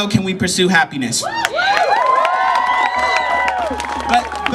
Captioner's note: cheering!!!